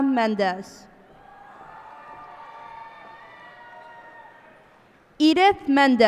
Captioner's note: cheers and applause